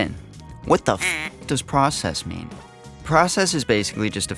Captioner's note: quack